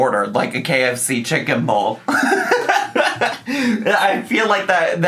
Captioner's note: laughs